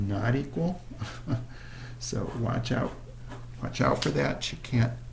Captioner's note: laughter